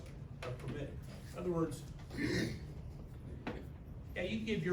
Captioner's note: clears throat